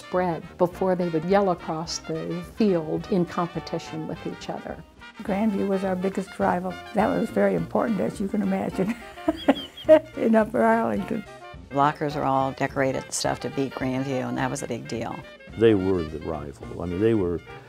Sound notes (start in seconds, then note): 8.8 laughter